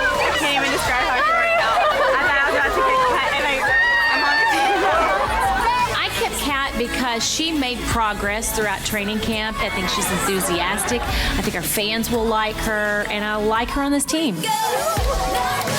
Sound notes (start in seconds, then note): 5.4 upbeat music; 5.4 women cheering; 14.3 women cheering; 14.6 upbeat music